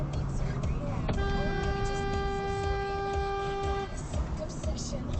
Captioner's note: honnnnnnk